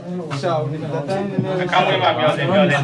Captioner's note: radio message